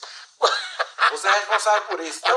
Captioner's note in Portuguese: risada